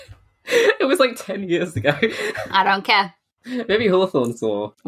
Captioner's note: laughing